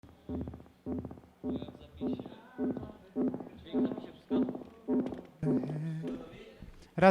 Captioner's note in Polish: Miarowe elektroniczne łopotanie